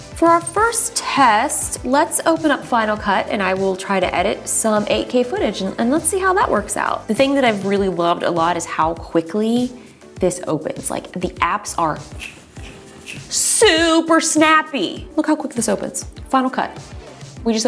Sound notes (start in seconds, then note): 12.0 fingers snapping